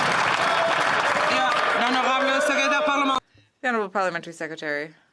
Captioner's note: some Applause